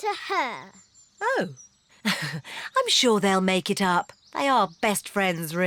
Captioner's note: laughs nervously